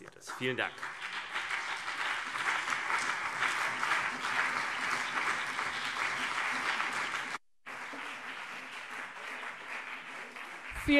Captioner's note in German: Beifall BÜNDNIS 90/DIE GRÜNEN und vereinzelt CDU